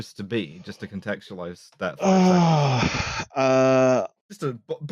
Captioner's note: big sigh